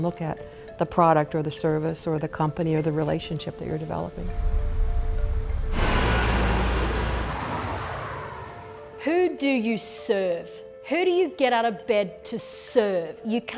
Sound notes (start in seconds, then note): 4.4 instrumental music; 5.3 car traffic